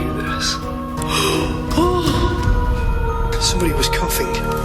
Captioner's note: gasping